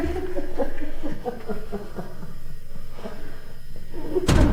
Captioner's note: Felina laughs again